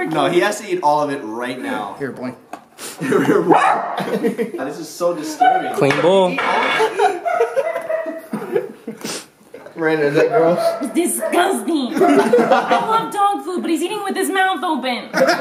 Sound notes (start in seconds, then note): 3.4 barks; 5.3 barking in background